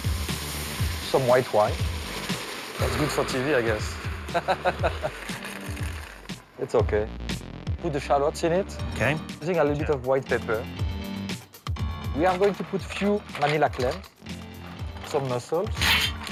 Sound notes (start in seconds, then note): 4.3 laughs